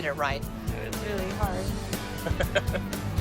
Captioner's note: chuckles